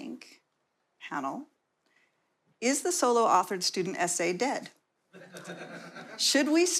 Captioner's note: laughter